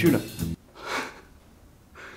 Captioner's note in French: rire soufflé